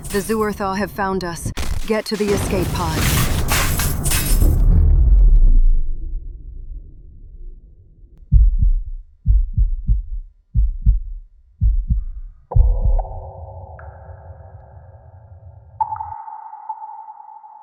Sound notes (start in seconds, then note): 4.1 explosions; 8.5 heart beats; 13.0 cave hambience